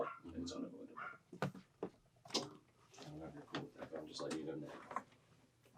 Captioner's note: talking softly in background